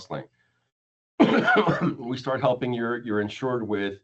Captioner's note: coughs